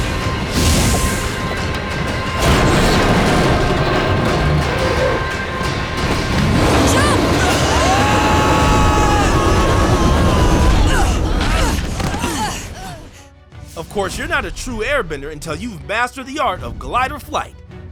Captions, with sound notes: Jump! [screaming] [grunting] Of course, you're not a true airbender until you've mastered the art of glider flight.